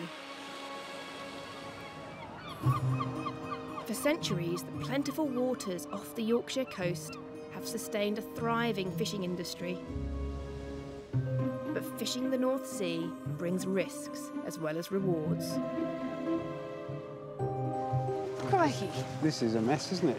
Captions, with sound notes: and that's what's brought us to Saltwick Bay near Whitby. (seagulls squawking) For centuries, the plentiful waters off the Yorkshire coast have sustained a thriving fishing industry. (suspenseful orchestral music) But fishing the North Sea brings risks as well as rewards.